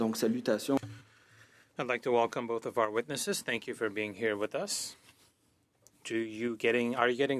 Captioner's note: speaking French